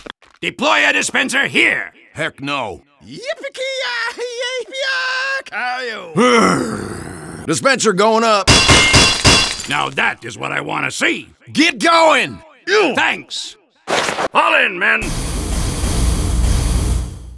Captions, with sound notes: Deploy a dispenser here! Heck no. *texan mating call* Grrr... Dispenser goin up! Now that is what I want to see! Get goin! Ow! Thanks! Fall in, men!